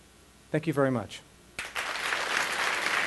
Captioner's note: applause